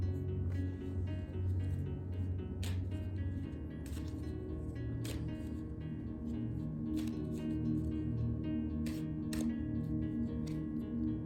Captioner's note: cards shuffling